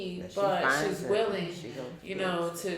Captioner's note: speaking faintly